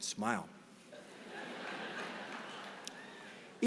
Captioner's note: laughter